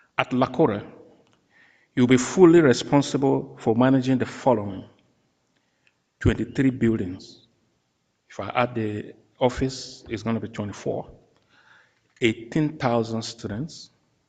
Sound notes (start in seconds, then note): none